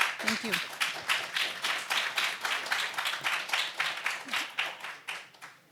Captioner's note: audience applauds